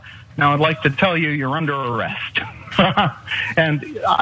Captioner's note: laugh